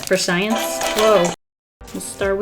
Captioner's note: phone rings